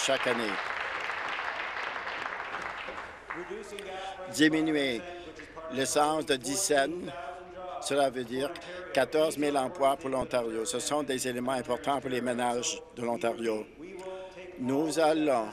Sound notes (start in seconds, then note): 1.8 some Applause